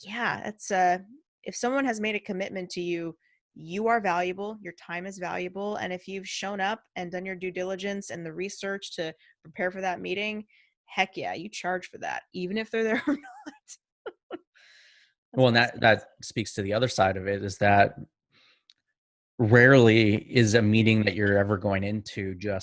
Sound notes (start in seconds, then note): 14.1 laughing